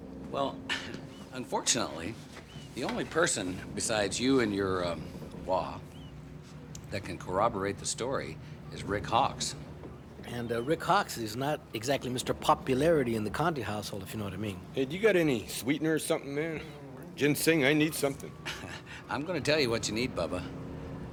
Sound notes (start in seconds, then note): 17.9 chuckling